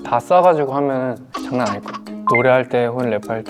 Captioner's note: haha